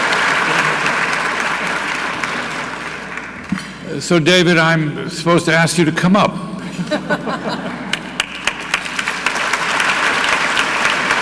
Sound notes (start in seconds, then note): 6.5 audience laughing; 7.5 audience clapping